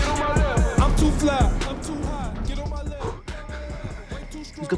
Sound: garage door opens

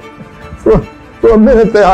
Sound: laughing

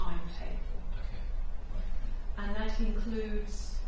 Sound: voiceover

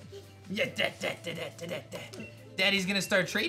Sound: makes baby noises

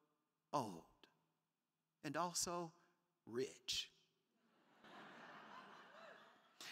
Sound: crowd laughing

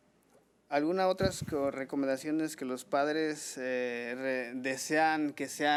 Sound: man speaking foreign language

